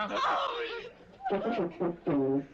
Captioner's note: laughing